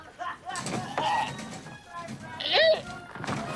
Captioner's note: retching